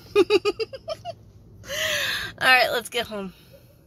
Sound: giggling; sigh

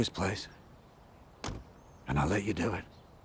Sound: car door closes

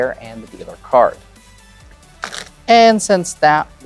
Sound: cards riffling

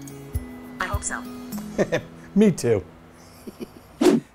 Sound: chuckles

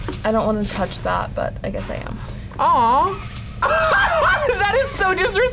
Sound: laughs

